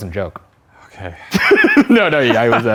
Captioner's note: laughs